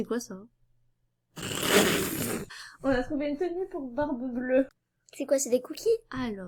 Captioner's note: snorts